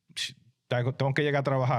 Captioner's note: speaking In Foreign Language